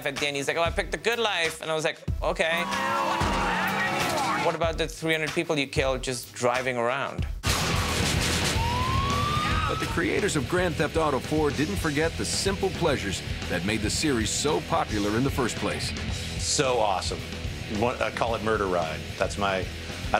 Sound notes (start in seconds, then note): 8.4 siren blaring